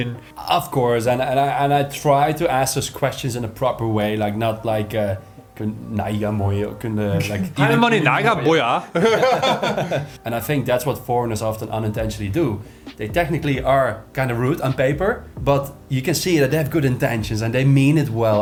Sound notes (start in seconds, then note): 8.0 casual speech